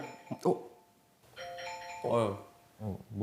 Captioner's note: an alarm starts going off in everyone's room